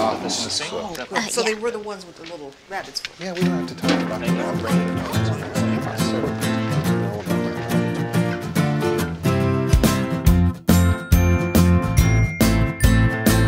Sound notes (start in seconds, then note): 3.9 group chatting; 3.9 cheery music